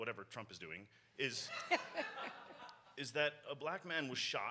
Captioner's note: audience laughs